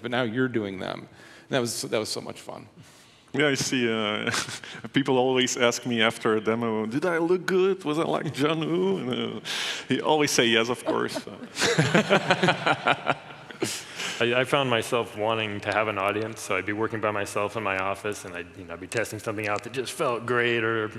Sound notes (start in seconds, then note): 3.4 chuckles; 11.9 laughing